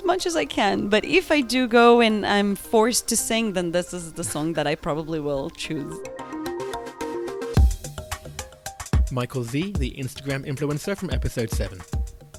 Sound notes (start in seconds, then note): 6.7 voiceover